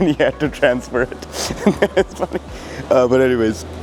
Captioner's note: laughs